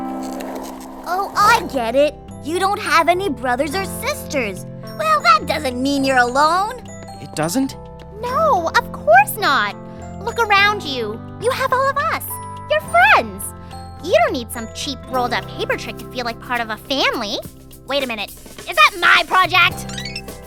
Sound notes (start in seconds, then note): none